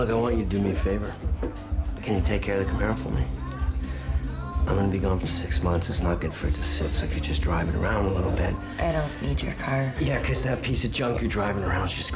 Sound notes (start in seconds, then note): none